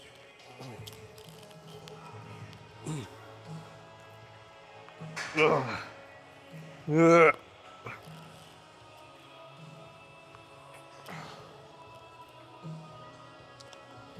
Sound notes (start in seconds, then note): 5.0 grunts; 11.1 grunts